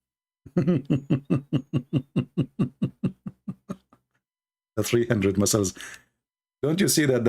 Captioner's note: Ketawa